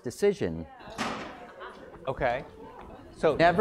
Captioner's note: laugh